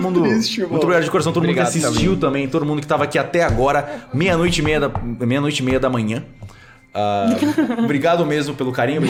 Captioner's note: laughter